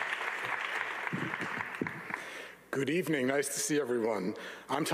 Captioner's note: audience applauding